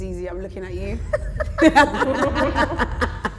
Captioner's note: laughter